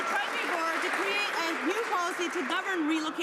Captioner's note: some Applause